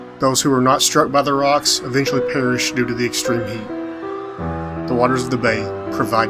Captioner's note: none